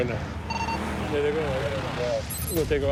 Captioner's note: car engines revving